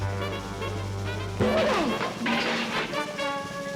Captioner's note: groans; clanks; tense music